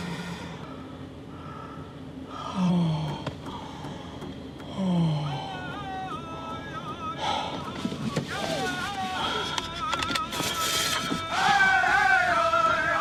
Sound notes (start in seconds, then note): 8.2 voices chanting; 12.1 drums beating; 12.1 voices chanting